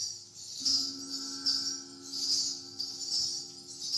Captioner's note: finger cymbals clinking; gong chiming